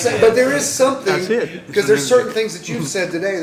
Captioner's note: laughter